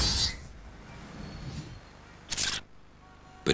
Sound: shutter sound

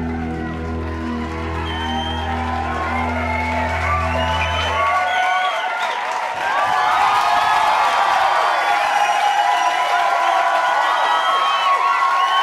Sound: audience Cheering

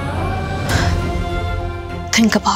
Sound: sighs

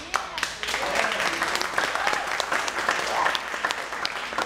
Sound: cheering and applauding

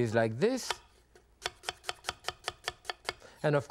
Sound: knife cutting

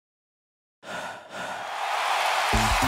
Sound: heavy breathing; cheering; upbeat music

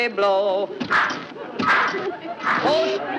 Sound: machine hissing

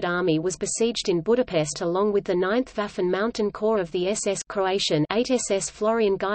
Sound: Croatian

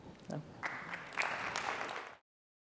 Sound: applause

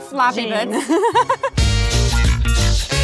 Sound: laughing; upbeat music

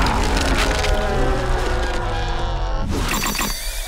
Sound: screaming

